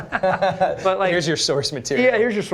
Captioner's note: laughter